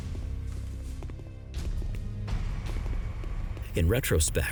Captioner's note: footsteps departing